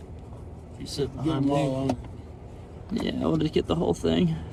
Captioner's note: men chatting